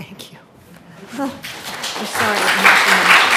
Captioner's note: audience applauding